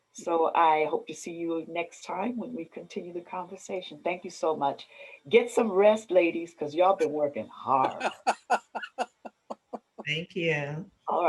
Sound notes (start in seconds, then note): 7.8 laughter